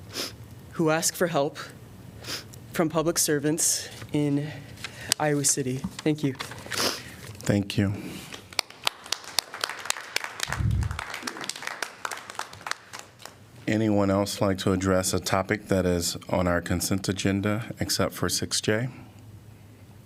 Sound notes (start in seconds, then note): 8.4 applause